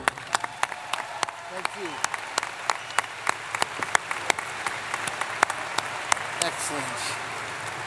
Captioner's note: applause